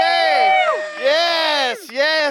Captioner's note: crew cheering